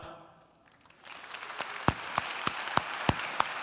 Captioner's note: applause